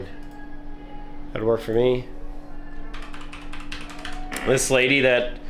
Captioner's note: tapping